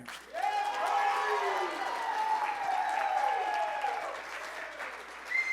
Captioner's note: applause